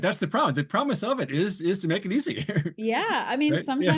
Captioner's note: laughs